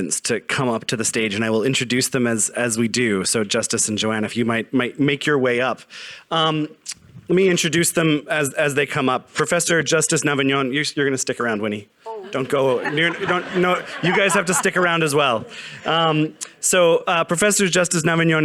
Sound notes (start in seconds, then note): 12.0 audience laughing